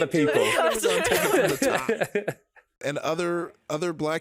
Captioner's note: laughing